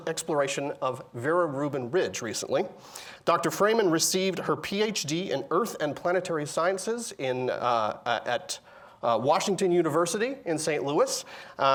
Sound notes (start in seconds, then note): none